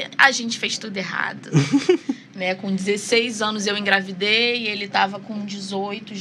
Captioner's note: risadas